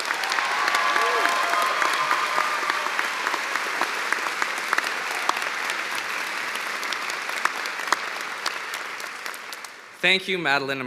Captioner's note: cheers and applause